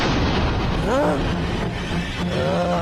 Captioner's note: gasps